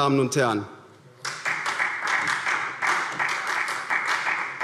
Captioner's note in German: Beifall SPD